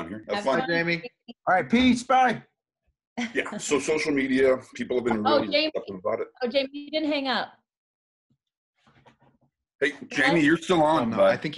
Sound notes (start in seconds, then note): 7.6 silence